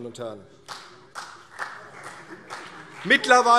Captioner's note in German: Vereinzelter Beifall CDU